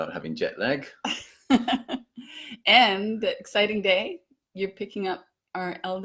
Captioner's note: laughs